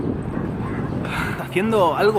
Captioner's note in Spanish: Suspiro